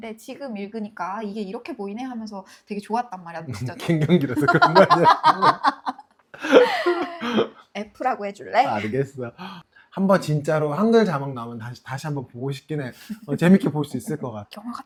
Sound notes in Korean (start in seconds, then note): 3.8 웃음